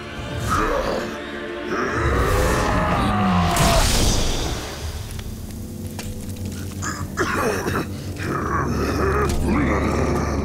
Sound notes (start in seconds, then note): 0.3 grunting; 6.8 coughing; 7.1 grunting